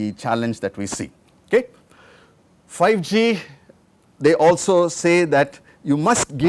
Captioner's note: beeps